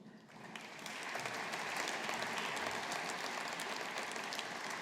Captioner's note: audience applauding